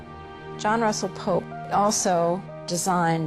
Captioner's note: voiceover